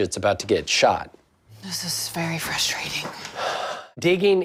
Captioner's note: sighs